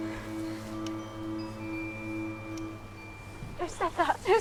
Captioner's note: bell chiming